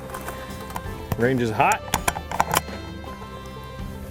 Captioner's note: bolt clicks open